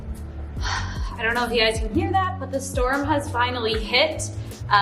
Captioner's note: deep sigh